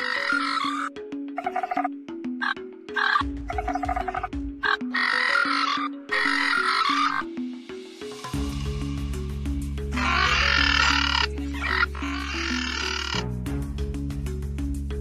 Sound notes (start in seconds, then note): 1.1 coelophysis sounds